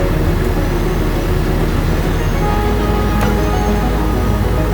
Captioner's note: tow truck winch whirring